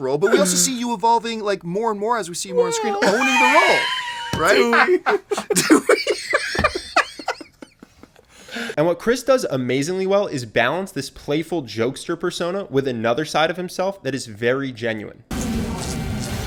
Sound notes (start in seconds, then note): 3.3 high-pitched "Yeah"; 5.8 bursts out in laughter